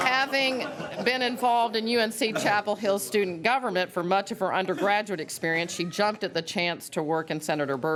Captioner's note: laughter